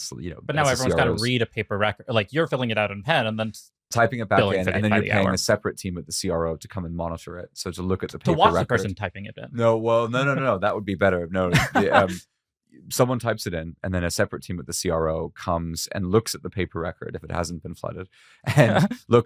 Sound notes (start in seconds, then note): 15.8 laughs